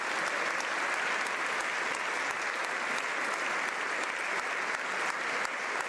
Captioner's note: applause